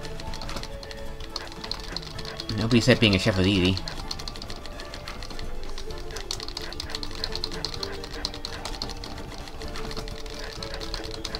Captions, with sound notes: Nobody said being a chef was easy! *more button-mashing*